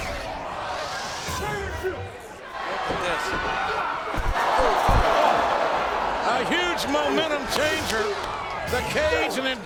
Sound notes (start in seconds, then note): 4.1 body thuds; 4.3 audience groans